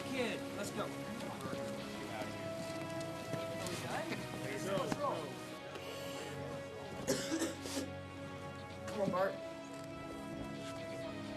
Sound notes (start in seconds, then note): 4.1 coughs